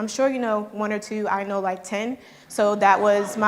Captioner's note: audience laughing